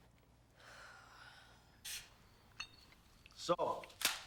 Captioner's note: Kelly sighs